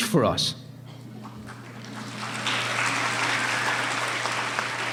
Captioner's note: applauding